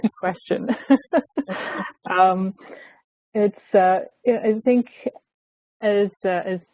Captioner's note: laughs